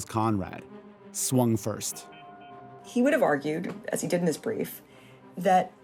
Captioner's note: soundbite of boxing bell